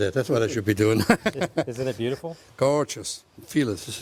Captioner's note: laughs